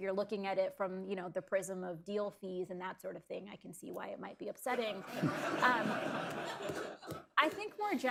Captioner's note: laughter